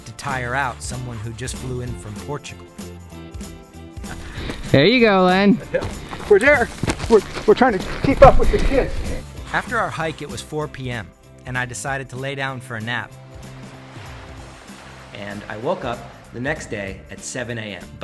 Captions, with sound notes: to tire out someone who just flew in from Portugal. There you go Len. - We're there. We're trying to keep up with the kid. - After our hike it was four PM, and I decided to lay down for a nap. (water rushing) And I woke up the next day at seven AM.